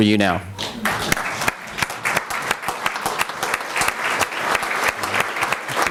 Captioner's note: applause